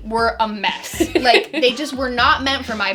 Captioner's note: laughs